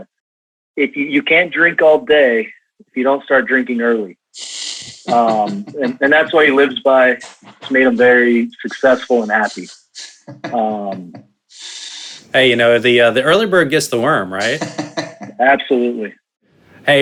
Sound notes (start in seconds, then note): 4.8 chuckling; 10.6 laughing; 14.0 laughs